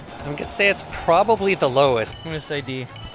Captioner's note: ding